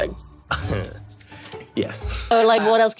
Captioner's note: chuckles